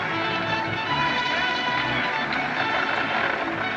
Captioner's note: man Shouts